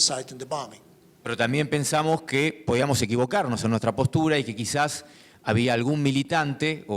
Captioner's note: speaking in foreign language